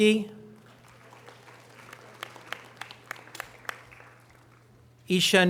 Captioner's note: audience applause